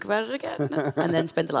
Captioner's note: laughs